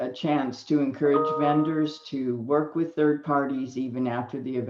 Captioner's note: computer dings